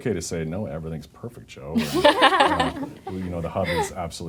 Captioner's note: laughing